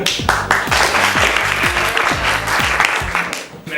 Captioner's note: applause